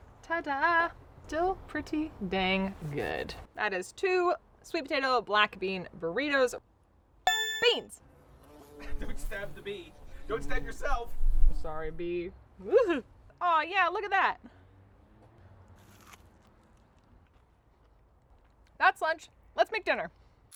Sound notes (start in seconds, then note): 7.2 dinging; 15.7 eating